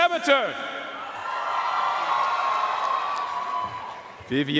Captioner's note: audience cheering and applauding